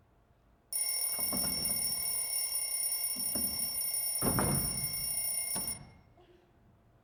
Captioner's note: alarm clock ringing